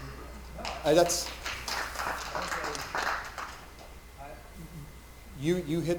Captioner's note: attendees applauding